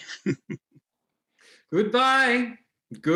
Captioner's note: Rank chuckles